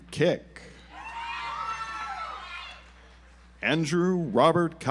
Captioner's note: audience applauds